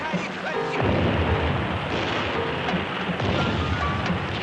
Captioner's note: artillery booming